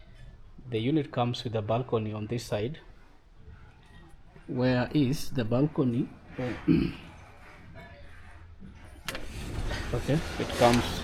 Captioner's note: clears throat